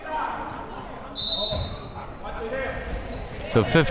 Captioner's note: whistle tweeting